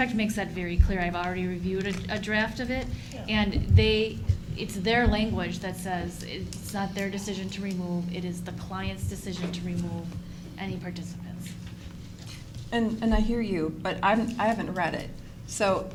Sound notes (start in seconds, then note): none